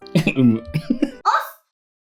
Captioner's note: chuckles